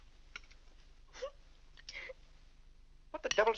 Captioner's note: Annie weeps